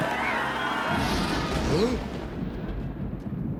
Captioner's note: thunder Crashing